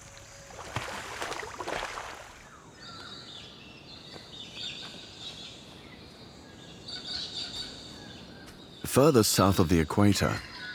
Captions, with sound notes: [birds chirping] Further south of the equator,